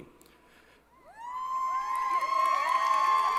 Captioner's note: applause & Cheering